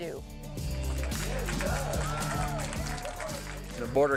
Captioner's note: audience applauds